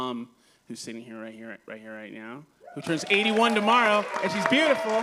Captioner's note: applause